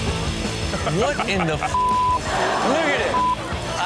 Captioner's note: heavy rock music; beep; audience laughs; beep